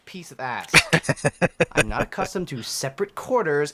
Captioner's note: laughing